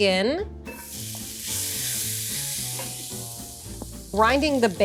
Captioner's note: bacon sizzles